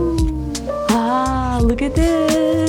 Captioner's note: gasps